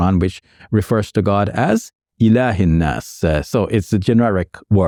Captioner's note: speaking Arabic